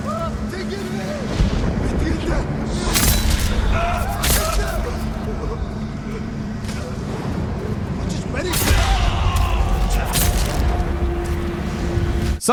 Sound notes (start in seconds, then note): 0.1 enemy shouting in foreign language; 2.8 sword clanging; 2.9 enemies screaming; 6.3 tense music; 7.9 enemy shouting in foreign language; 8.6 enemy shrieking